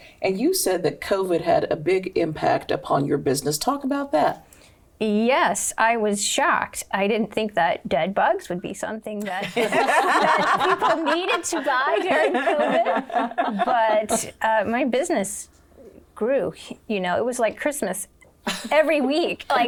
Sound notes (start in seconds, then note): 9.4 laughing